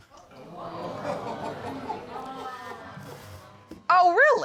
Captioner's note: audience exclaims and laughs